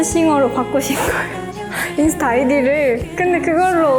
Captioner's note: laugh